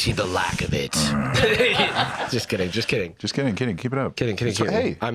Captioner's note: laughs